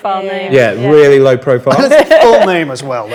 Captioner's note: group laughs